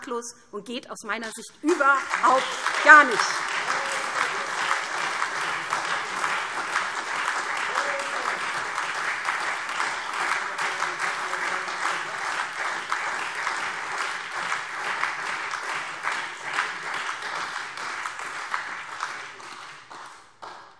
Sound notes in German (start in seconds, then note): 3.6 Lebhafter Beifall SPD und Freie Demokraten